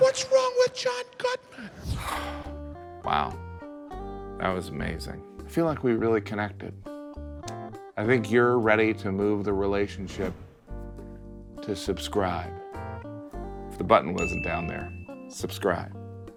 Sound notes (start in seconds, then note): 1.5 sighs